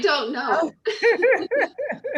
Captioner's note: laughter